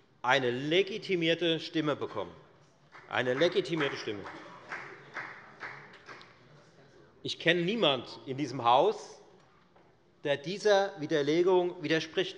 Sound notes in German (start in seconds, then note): 2.9 Beifall bei der FDP